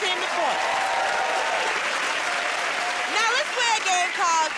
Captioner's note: cheers and applause